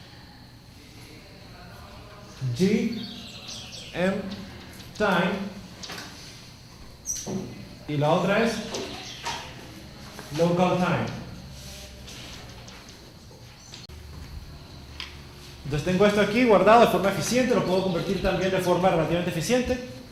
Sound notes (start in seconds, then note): 1.8 birds continue; 6.9 bird chirps